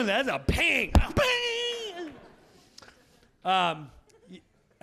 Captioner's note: Jim slapping